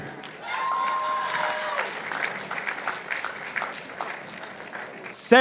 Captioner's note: participants applauding